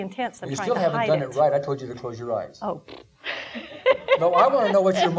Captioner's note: laughing